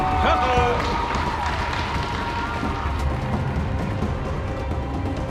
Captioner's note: crowd cheering; dramatic music